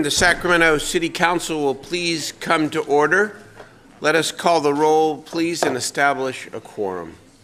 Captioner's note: gavel pounding